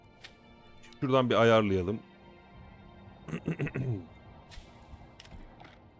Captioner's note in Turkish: öksürme